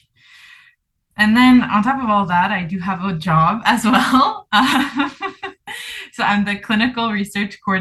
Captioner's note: laughs